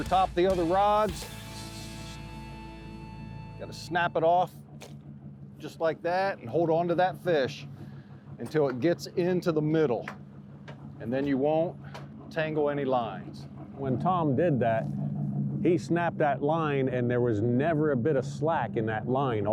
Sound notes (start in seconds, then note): 4.6 rod flings